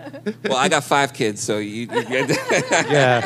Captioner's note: laughter